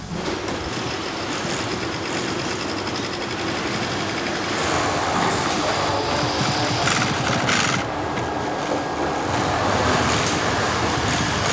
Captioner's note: whirring machines